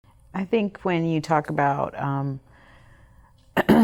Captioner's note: clears throat